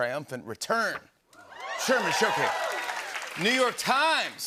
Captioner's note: cheers and applause